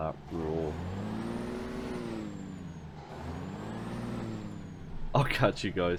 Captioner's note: even more revving